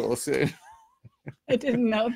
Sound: laughing

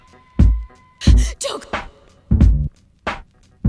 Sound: heavy breathing

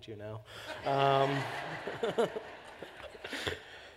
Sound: laughter

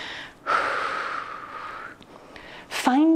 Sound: exhales sharply

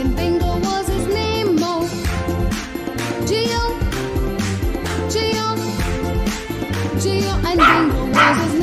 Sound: clap – Clap – Clap

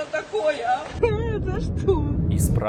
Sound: sobs

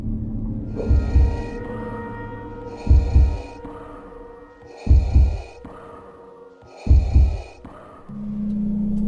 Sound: creepy breathing; heart beats

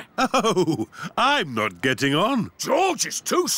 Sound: chuckling

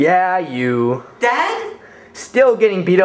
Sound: none

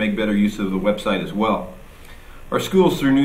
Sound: none

